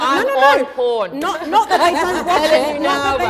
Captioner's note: laughter